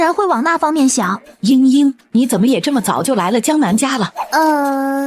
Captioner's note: sobs